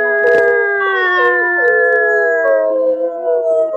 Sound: everyone howls

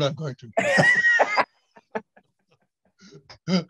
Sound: laughing

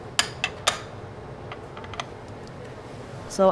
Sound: petri dish clicks on the surface

